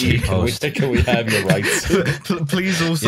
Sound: laughs

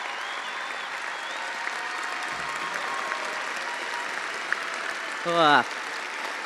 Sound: attendees applauding and cheering

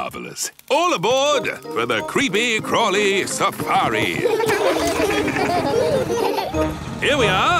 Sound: laughing

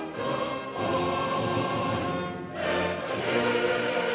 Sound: none

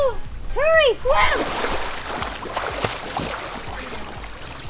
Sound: splashing

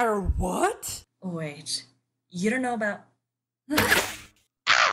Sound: startled noise. Bow fires

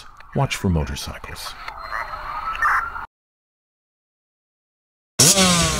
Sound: police radio chatters

